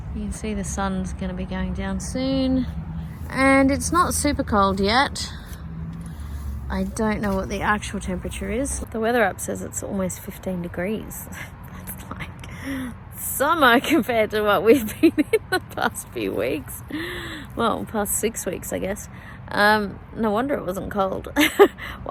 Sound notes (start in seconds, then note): 11.2 scoffs; 14.7 laughing; 21.4 chuckles